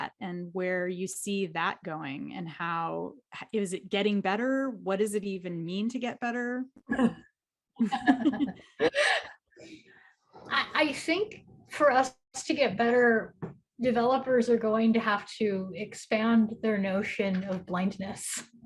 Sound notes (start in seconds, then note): 7.8 laughs; 7.8 giggles